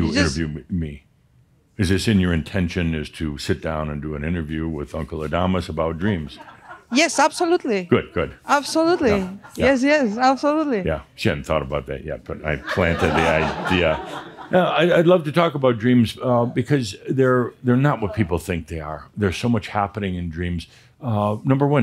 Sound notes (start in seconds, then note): 6.4 a few chuckles; 16.2 laughter